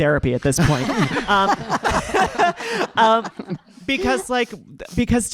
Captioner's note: audience laughing